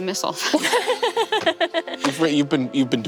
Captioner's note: Siobhan and Ally laugh